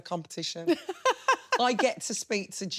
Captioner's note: laughing